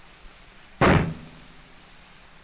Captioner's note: gunshot